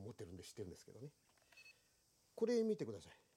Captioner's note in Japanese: 操作音